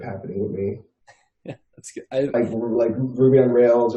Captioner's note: laughs